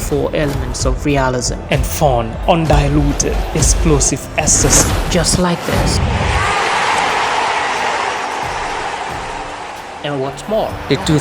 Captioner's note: crowd chants